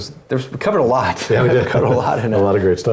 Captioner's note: laugh